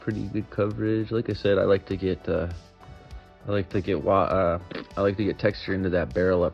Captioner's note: brainfart noise